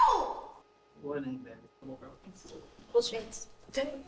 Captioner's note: doctor faintly speaking